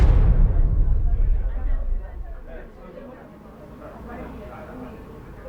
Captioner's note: people chattering indistinctly